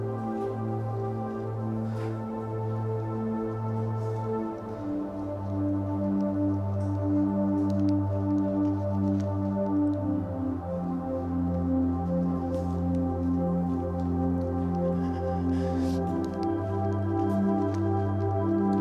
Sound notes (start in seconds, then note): 15.3 breathing shakily